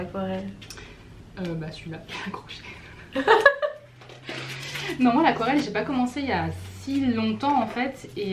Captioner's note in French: rires